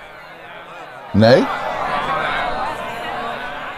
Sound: crowd murmurs

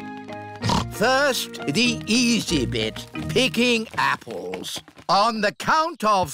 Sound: snorts

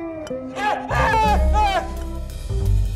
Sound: screaming

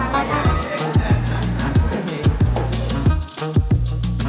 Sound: people chattering

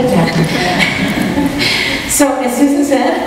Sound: laughs

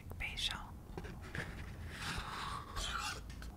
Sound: scraping

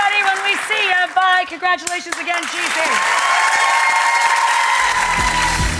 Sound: audience applauds and cheers; upbeat rock music

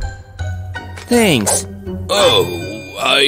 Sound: grunting

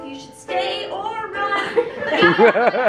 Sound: laughter

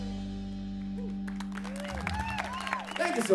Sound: applause

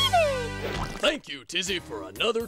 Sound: splat

